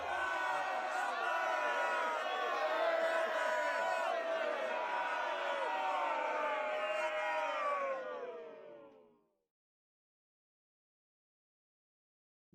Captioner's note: angry Crowd subsiding